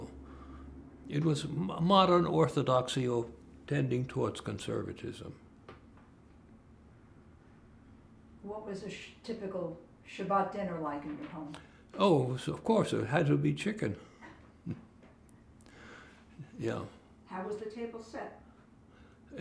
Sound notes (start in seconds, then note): 14.2 laughing